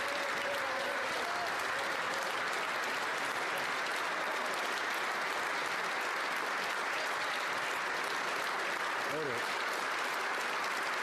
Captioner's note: cheering and Applause